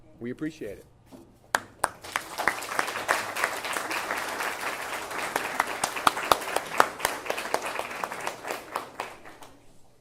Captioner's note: applause